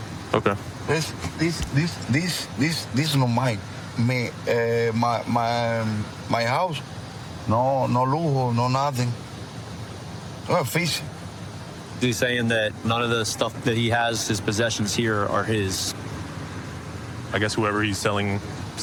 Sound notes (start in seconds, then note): 7.0 speaking spanish